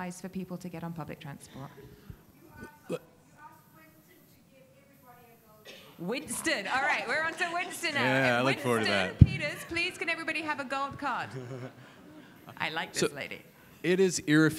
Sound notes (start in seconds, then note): 7.2 audience laughing; 11.6 laughing